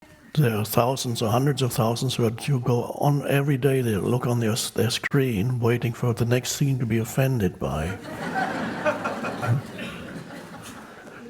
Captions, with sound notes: - There are thousands or hundreds of thousands where you go on every day, they look on their screen, waiting for the next scene to be offended by. (crowd laughs)